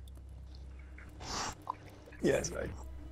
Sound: sniffs

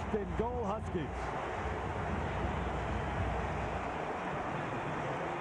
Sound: cheering, applause

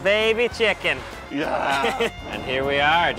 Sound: laughs

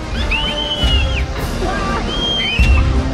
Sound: squealing

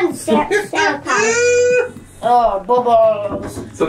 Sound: makes funny laughing noise

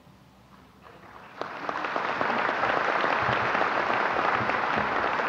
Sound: applause

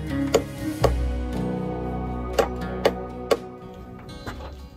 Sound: hammer hitting nails sound

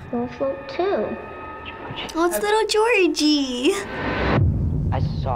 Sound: whispers

